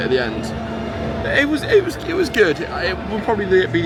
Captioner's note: stammering